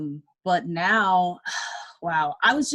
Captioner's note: exhales